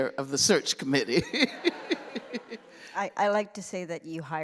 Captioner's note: laughter